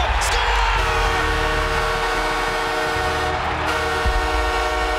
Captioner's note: horns blowing